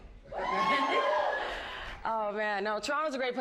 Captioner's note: crowd cheers